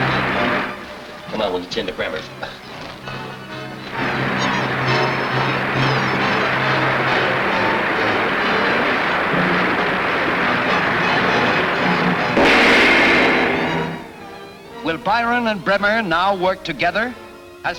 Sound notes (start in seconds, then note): 3.9 water gushing; 12.4 crashing